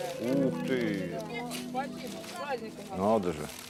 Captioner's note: bag rustles